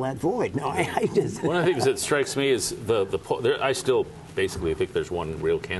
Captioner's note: laughter